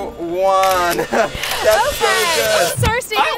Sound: camera snapping

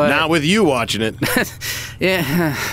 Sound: laughs

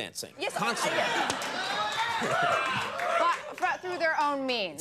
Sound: audience laughs and cheers

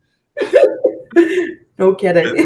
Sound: laughing

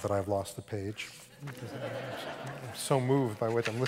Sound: laughter

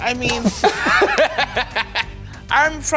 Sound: laugh

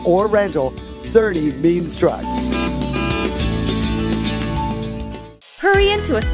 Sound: truck honking

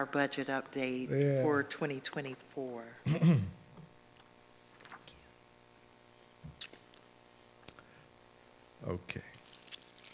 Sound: clears throat

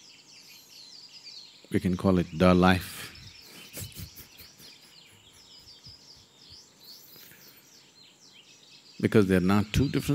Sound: laughs

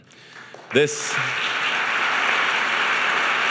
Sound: applause

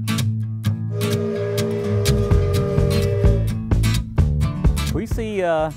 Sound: train whistle blowing

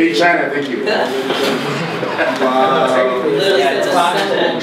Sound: everyone laughs

